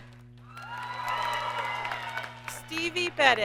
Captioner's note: audience cheers and applauds